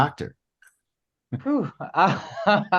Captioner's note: laughs